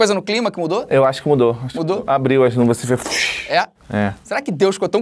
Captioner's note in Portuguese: vuuuush